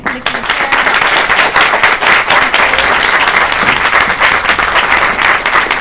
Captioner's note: applause